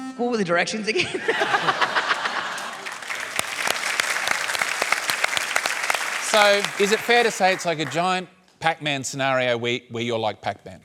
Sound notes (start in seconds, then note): 1.8 applause; 2.3 laughs